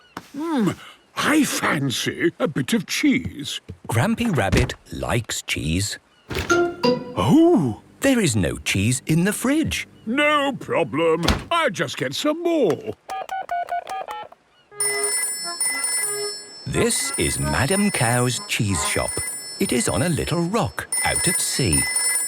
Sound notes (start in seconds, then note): 12.9 dial tone; 14.8 phone rings